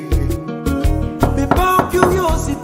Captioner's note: knocking on door